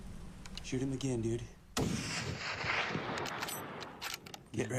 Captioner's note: rifle shot echoes